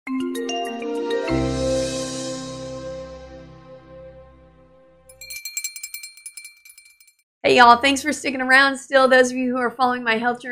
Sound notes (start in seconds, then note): 0.1 upbeat music; 5.1 ringing noises